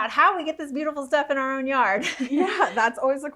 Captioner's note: chuckles